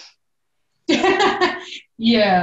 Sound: laughing loudly

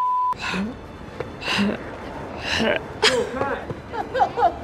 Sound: heavy breathing

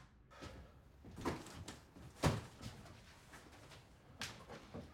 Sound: TV silent; boxes banging

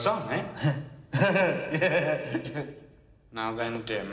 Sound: chuckling

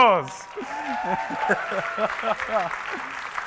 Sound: laughing

